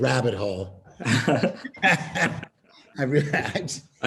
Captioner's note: laughter